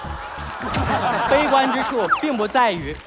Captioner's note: laughing